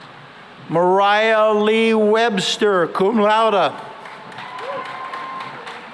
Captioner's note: cheering and applause